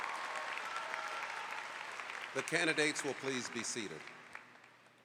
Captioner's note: applause